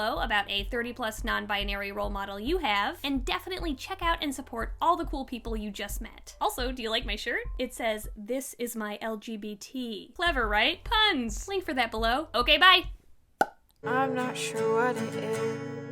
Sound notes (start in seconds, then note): 13.4 pop